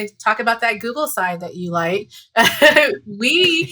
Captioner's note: laughs